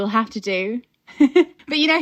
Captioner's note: laughing